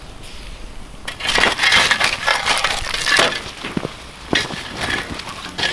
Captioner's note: metal rattling and scraping